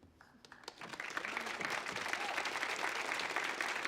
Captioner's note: audience applauds